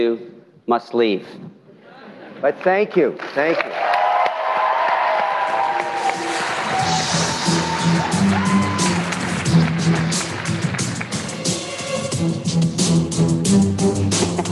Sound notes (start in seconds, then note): 2.1 cheering; 2.6 applause